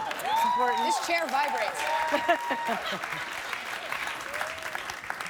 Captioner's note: laughs